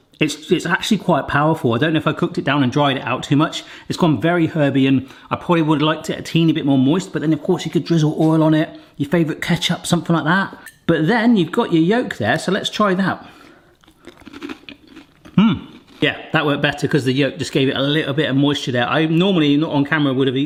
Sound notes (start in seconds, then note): 13.7 chewing